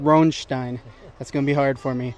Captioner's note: laughs